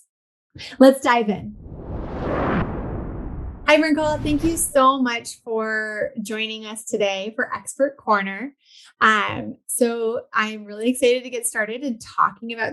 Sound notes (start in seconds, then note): 1.5 air whooshing